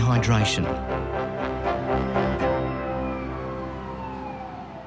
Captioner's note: siren wailing